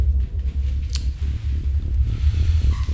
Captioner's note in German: missbilligendes Geräusch